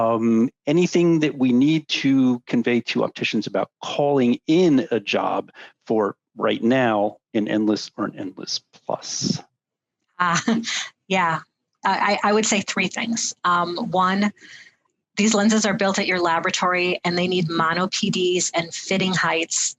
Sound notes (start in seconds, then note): 8.9 laughs